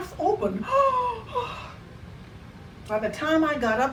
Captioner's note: gasps